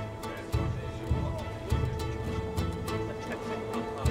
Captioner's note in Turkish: Gülme sesleri